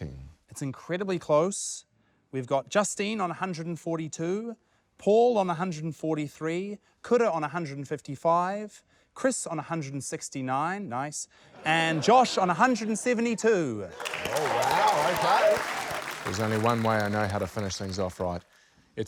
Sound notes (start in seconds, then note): 11.6 laughter; 13.9 applause